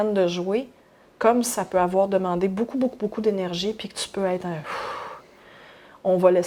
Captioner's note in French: soupir